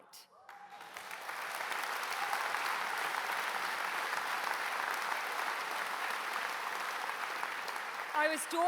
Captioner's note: applause